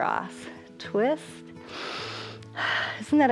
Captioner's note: inhales and exhales